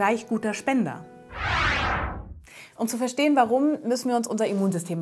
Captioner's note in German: Soundeffekt